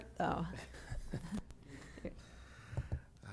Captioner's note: chuckle